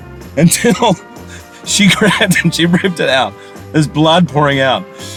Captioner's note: Hugh laughing